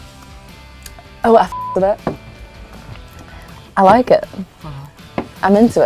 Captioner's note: beep